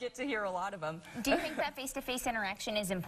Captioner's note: chuckling